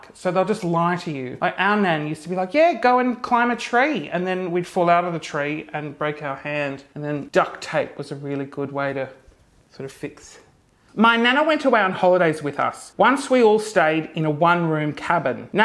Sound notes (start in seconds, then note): none